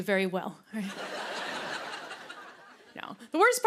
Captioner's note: laughter